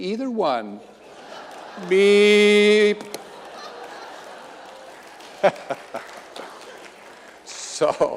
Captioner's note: audience laughing and clapping